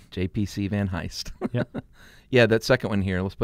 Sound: chuckles

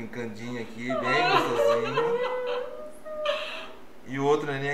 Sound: laughter

